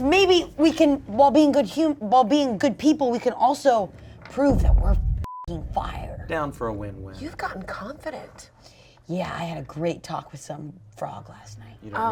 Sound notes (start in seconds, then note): 4.4 thump resounds; 5.2 beep